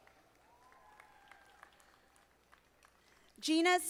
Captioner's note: audience applauding